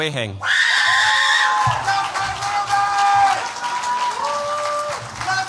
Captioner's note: cheers, applause